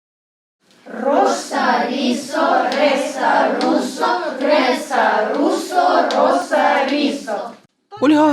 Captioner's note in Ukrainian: Говорять іспанською